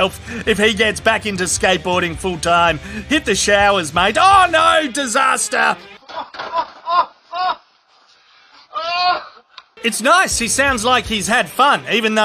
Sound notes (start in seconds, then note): 5.3 laughing